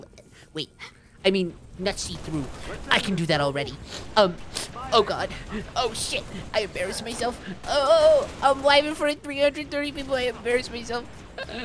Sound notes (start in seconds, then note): 3.6 sniff